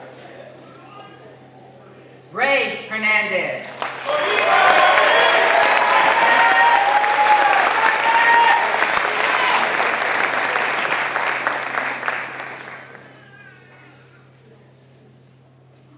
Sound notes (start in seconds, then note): 3.6 applause